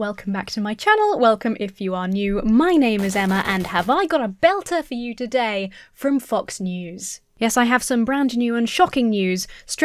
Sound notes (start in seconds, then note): 2.8 glitchy static